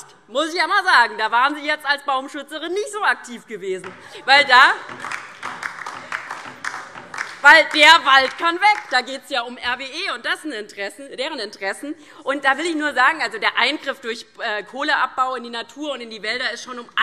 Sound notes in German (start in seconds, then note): 4.8 Beifall DIE LINKE